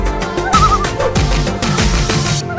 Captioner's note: loon call